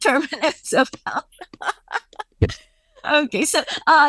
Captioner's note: laughing